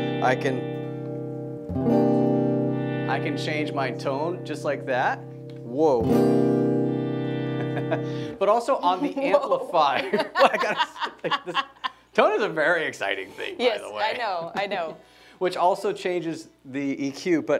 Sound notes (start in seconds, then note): 0.0 strums guitar; 1.7 strums guitar; 6.7 strums guitar; 7.4 laughs; 10.2 laughs mockingly